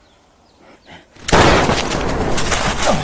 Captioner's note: gunshot